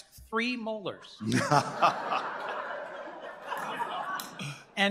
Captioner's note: laughter